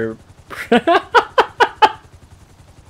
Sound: laughs

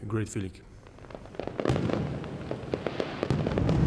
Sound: fireworks exploding

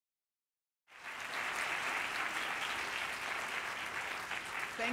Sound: applause

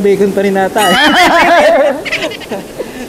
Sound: laugh

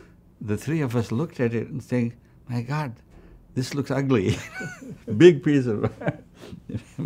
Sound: laughs

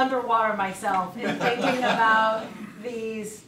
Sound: audience laughs

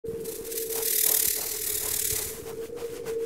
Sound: wind howling

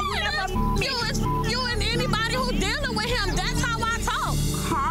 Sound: beep

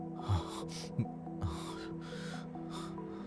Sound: exhales

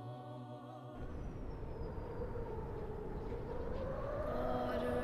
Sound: wind whistling

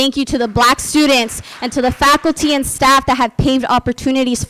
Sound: applause

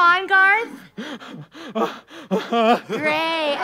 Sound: hyperventilating

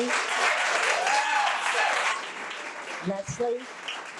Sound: audience applause

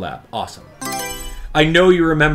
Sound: Mario Selection Sound

